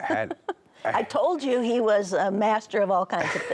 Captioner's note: laughs